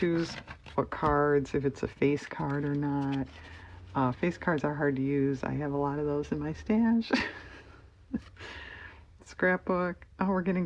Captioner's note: laughs